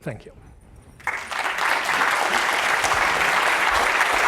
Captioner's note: applause